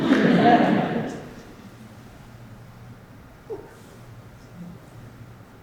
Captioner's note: audience laughs